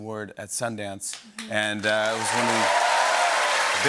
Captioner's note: cheers and applause